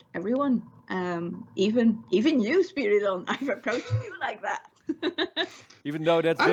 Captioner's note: laughs